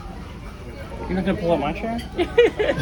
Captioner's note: sarcastically; laughs